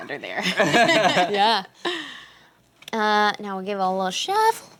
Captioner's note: laughter